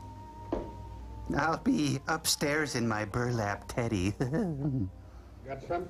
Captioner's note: chuckling